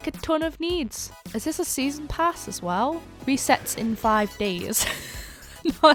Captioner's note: laughs